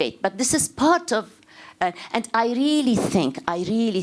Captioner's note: none